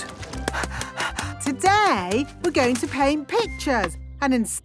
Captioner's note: panting